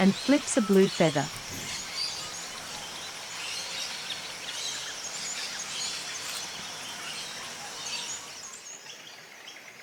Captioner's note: birds sounds and chirps